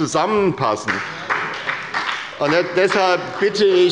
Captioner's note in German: Beifall bei der SPD